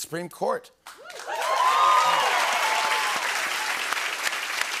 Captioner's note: cheering and applause